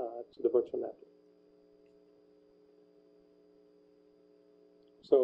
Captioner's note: pause